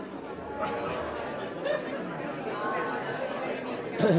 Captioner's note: audience chatter